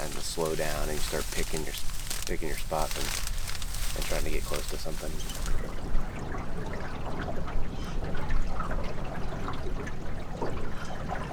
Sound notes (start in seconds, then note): 6.0 water flowing